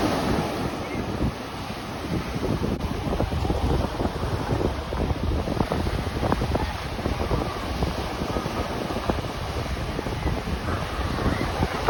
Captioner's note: ocean waves